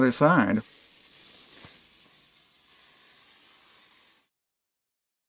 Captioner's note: paint spraying sound